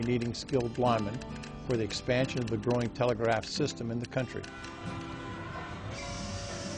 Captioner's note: telegraph key clicking ends